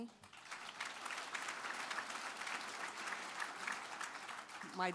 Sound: applause

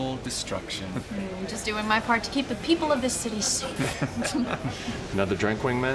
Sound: laughter

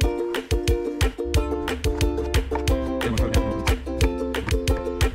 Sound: knife chopping

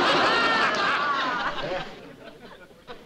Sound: laughter

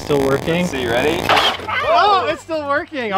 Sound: engine revving

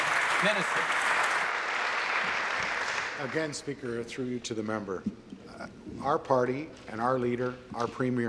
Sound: applause

